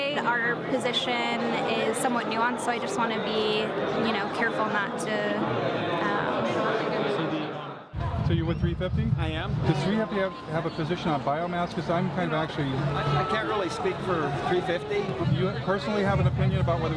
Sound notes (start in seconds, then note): 5.8 kalabalık konuşuyor